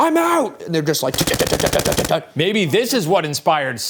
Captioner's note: imitates machine gun